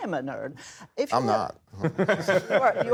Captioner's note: laughing